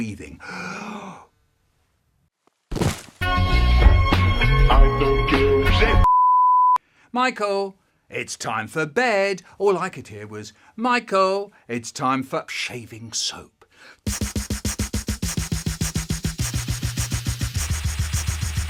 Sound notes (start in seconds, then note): 0.2 Michael Breathes In Violently; 2.6 body Fall